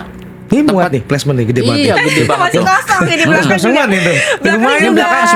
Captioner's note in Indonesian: tertawa